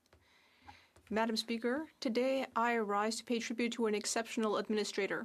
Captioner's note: speaking French